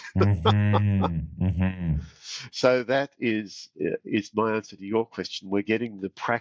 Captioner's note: laughing